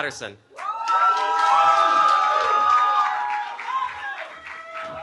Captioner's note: cheering